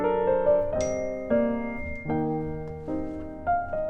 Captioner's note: cell phone chimes